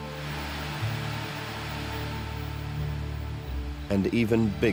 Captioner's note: static hissing